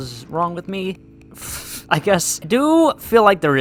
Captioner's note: laughs